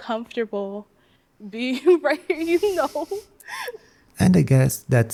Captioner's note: laughs